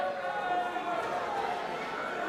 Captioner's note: crowd chatter; crowd cheering